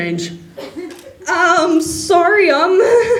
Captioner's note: Yuuri makes a nervous laugh